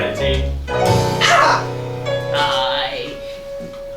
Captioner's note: screams